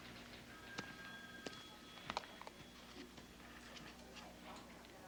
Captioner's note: phone ringing